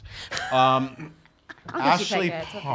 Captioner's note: laughs